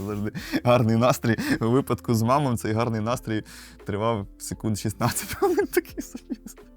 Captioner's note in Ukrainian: сміх